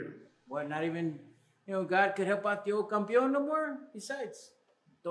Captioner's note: Spanish